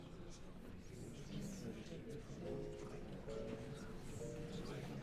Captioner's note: congregation whispering